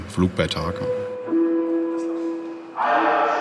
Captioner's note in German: Lautsprecherdurchsage